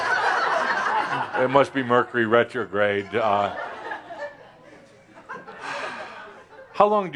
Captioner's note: laughter